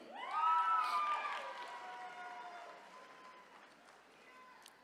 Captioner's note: attendees cheering